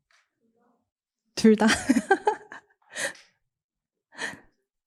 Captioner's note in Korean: 웃음